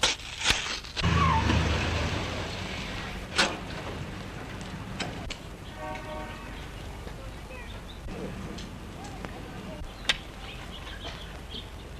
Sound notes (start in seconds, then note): 1.0 tires squeal; 5.7 car horn honks